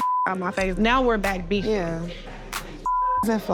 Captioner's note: beep; beep